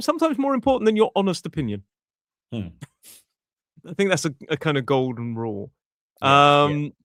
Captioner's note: snorts